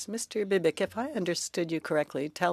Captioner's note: speaking French